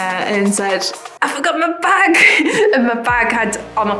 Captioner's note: laughs